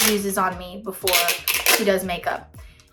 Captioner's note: package ripping